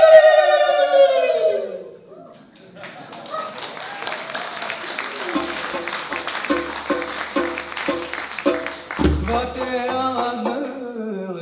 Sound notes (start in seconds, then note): 2.5 applause; 5.2 upbeat music